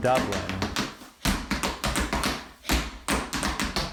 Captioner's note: shoes tapping